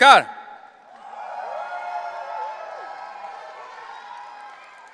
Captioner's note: audience cheering